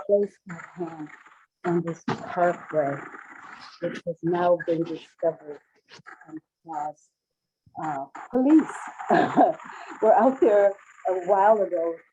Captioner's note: Static